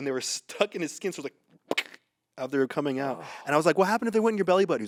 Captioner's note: pops lips